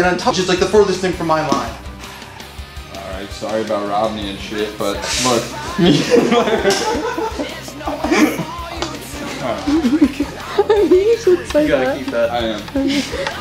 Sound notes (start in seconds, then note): 5.5 laughing